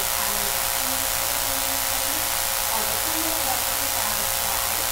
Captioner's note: buzzing drowns out speaker